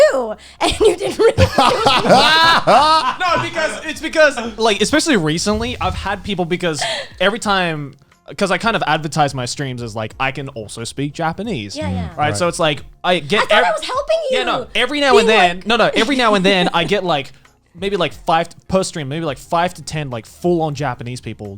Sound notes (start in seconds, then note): 2.1 all laughing